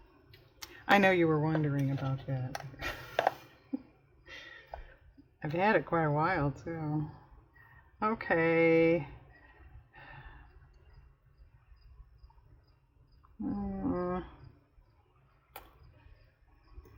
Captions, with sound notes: i know you were wondering about that (laughs) i've had it quite a while too okay